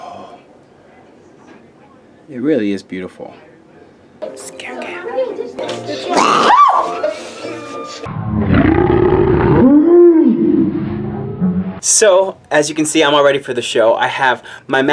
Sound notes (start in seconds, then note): 5.9 snorts; 6.1 screams; 8.1 slo-mo snort